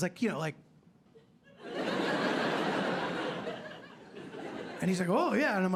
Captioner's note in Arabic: ضحك